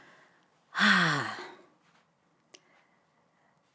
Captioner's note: sighs